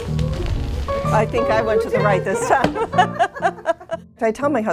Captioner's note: laughter